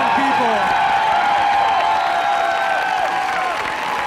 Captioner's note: cheering and applause